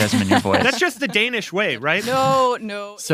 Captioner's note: laughs